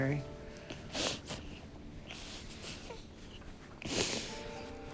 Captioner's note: crying